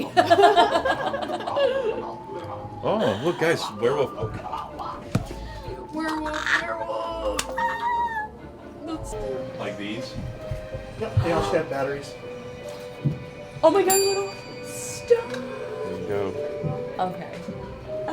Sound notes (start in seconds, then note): 0.0 riendo; 13.7 Suena una campana